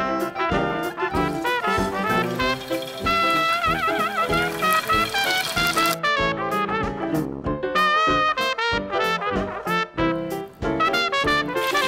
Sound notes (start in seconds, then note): 1.1 sizzling